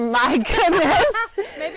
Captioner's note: laughs